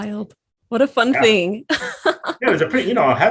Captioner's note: laughs